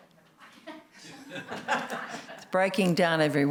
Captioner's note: laughter